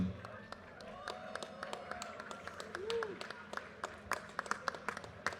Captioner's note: audience cheers and applause